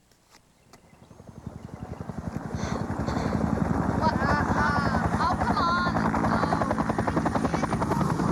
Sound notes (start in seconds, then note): 3.6 helicopter flies overhead